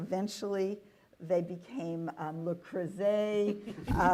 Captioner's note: laughter